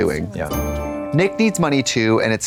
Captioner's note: bright chime